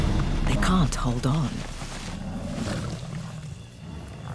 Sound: growling

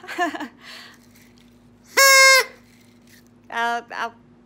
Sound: party Horn

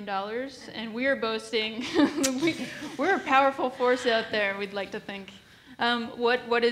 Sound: laughs

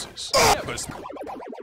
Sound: screaming

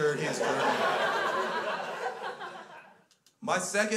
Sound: crowd laughs

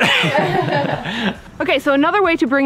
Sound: group laughing

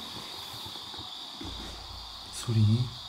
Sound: thud

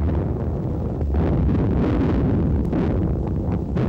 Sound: booming

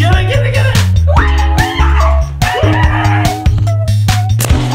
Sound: screaming

